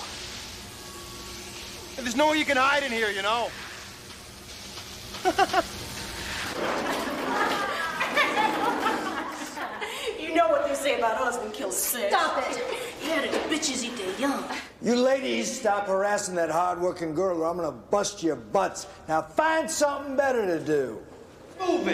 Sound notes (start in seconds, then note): 5.2 Jerry laughs; 6.8 girls laughing